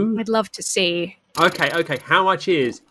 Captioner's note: blows raspberry